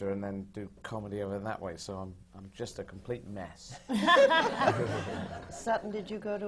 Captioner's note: laughter